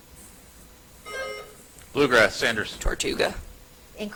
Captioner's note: buzzer chimes